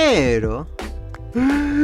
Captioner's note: extreme Inhale